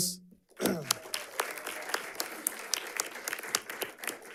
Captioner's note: audience clapping